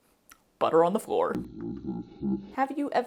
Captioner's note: weird slow motion sounds